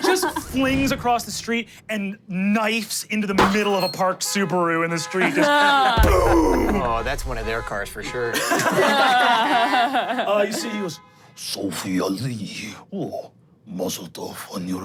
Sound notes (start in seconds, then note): 3.4 car honking; 8.7 group laughs